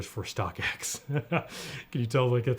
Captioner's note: laughing